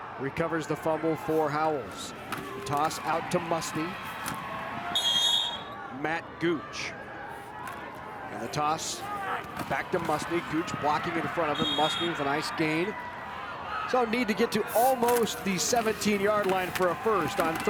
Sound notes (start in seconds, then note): 4.9 whistle blows